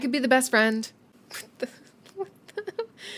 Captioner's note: exasperated giggles